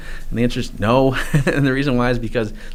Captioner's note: chuckles